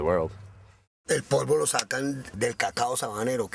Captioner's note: speaking foreign language